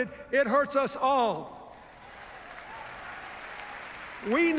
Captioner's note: cheers, applause